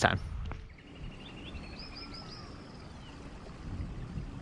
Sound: birds chirping

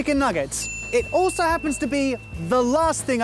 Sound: chime

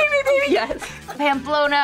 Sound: laughs

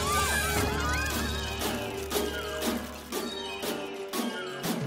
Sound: screaming

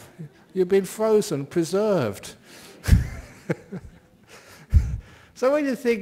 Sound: laughs

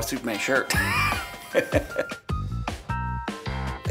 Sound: laughs

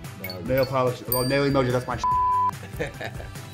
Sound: beep; laughing

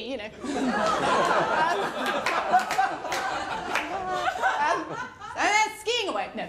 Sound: laughter

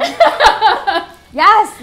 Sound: laughter

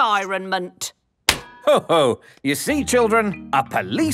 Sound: slaps

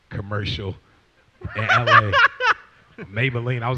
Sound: laughs

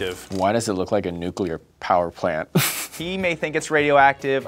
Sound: laughs

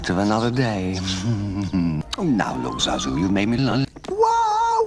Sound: laughs

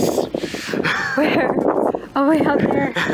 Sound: laughs

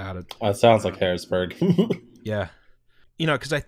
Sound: laughter

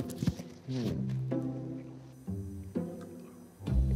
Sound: playful music; Takeru munching

